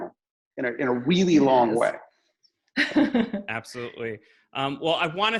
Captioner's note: laughs